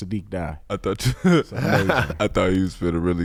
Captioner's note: laughs